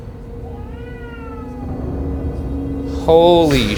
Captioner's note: baby crying